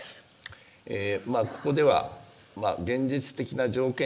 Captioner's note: speaking japanese